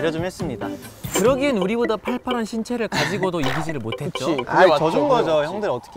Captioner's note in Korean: 속사포